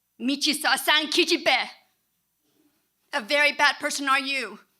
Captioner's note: speaking in Korean